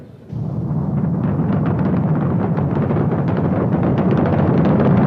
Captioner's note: low rumbling